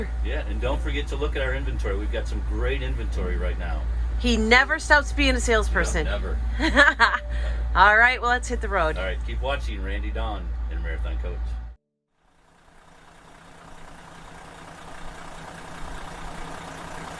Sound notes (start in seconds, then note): 12.2 coach engine running